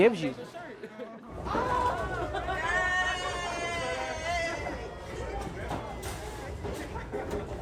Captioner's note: cheering